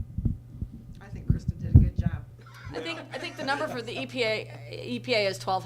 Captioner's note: laughs; laughter from audience